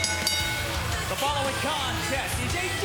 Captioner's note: bell ringing